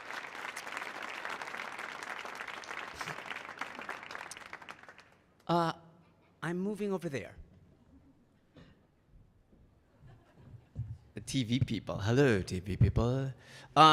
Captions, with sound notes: I'm moving over there. (audience laughing) The TV people. Hello, TV people.